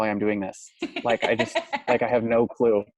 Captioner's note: laughs